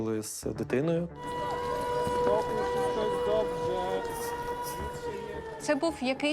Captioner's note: air raid siren sounding